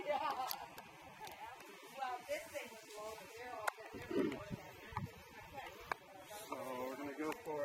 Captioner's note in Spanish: Voces en el fondo